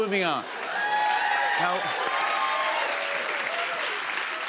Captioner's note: cheers and applause